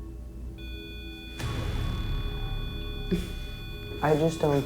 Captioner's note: beeping